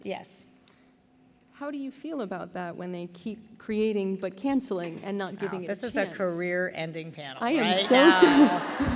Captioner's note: laughter